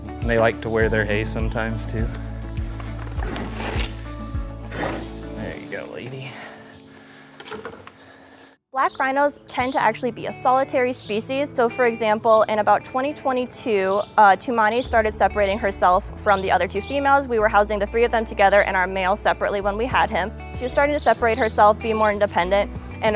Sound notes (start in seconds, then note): 2.3 Kamara grunting; 2.3 gentle instrumental music